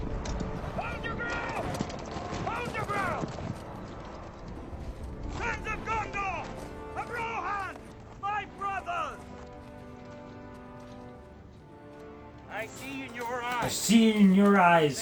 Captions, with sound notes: Hold your ground! [fighting sounds] Hold your ground! Sons of Gondor, of Rohan! My brothers! [background music] - I see in your eyes... - I see in your eyes